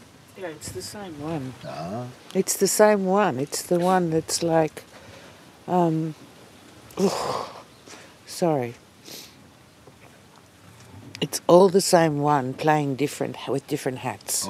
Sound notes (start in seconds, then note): 9.1 atmet frustiert aus